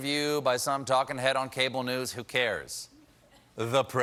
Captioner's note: laughter